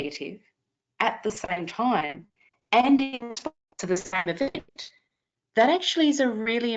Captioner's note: audio cutting out